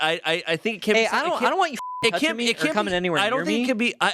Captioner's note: beep